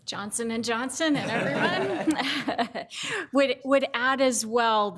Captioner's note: all laughing